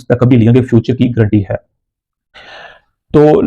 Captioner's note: gasp; sigh